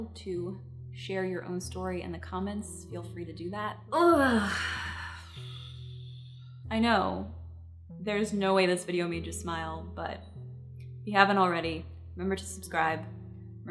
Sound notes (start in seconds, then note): 4.1 gasps; 4.5 exhales deeply